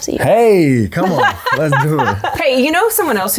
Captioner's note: laughing